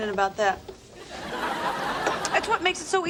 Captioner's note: laugh track laughs